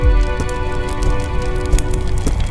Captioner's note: flames crackle